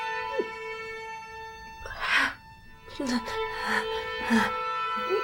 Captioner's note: painful gasping